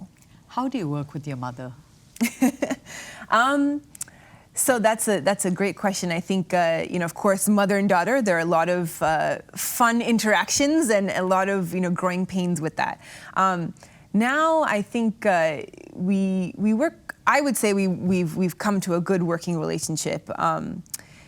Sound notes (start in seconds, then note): 2.2 chuckles